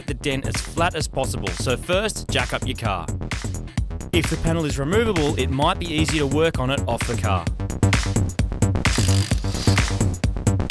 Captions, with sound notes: the dent as flat as possible. So, first, jack up your car. If the panel is removable, it might be easier to work on it off the car. [Whirring noise.]